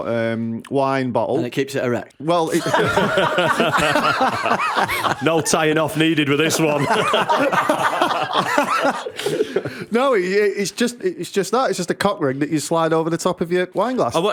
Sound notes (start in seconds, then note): 2.5 laughter